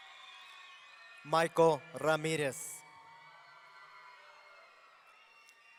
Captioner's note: audience cheering